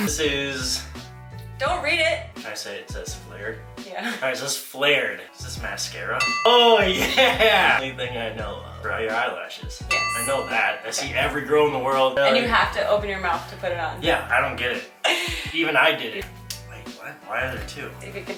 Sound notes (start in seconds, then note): 6.0 ding